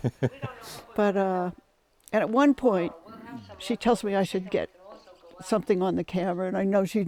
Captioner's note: laughter